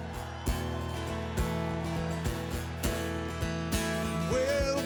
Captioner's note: crowd cheering